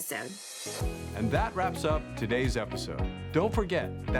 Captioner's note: voiceover